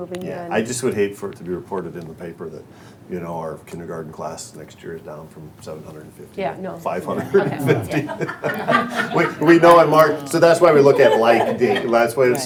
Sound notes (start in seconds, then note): 7.0 all laughing